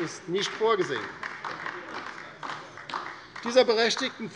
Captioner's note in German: Beifall bei der LINKEN